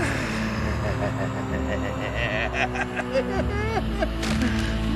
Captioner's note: crazed laughter